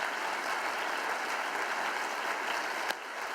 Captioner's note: applause